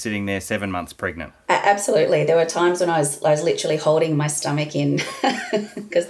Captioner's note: laughing